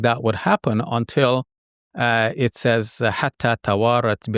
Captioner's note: speaking in foreign language